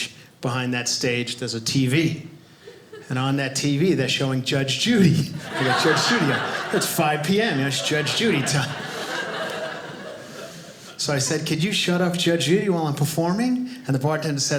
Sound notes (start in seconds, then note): 8.7 audience laughing